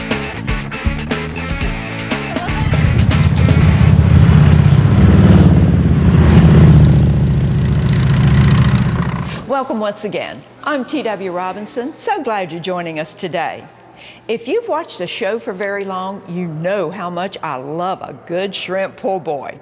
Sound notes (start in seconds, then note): 2.2 motorcycle engine roaring